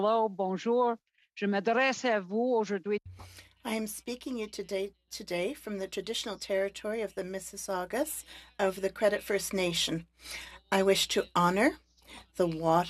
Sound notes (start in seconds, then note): 3.3 speaking Alternate Language; 6.0 speaking French